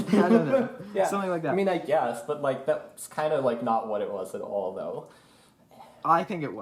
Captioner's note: laughs